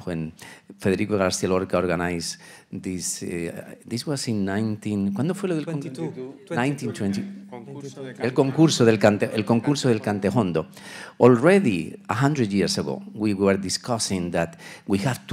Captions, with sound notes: when Federico Garcia Lorca organized this. This was in 19, (speaking Spanish) (group chattering faintly) - 22. - 1922. - Concurso de Cante Jondo. - El Concurso de Cante Jondo. Already 100 years ago, we were discussing that we have